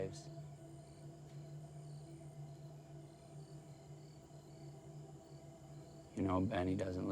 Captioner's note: crickets chirping; tense music